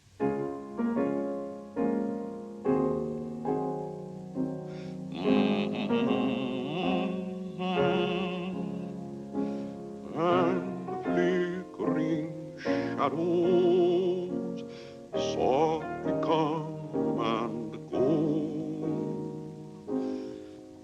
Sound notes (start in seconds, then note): 0.1 piano music; 4.6 humming